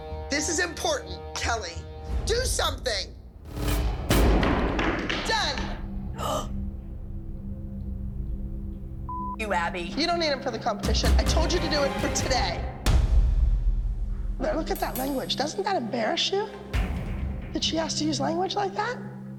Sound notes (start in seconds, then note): 3.8 slamming sounds; 6.1 gasps